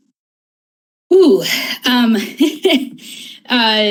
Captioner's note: laughs